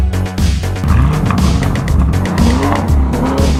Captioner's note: engine revs